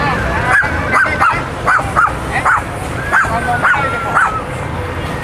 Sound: dog Barking

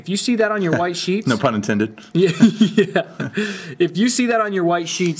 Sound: laughs

